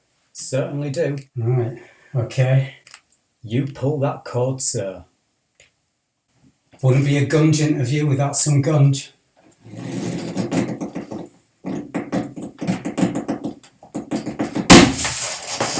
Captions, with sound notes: - Certainly do. Alright. Okay. You pull that cord, Sir! Wouldn't be a gunge interview without some gunge. (Stretching sound of the cord) (Snapping sound)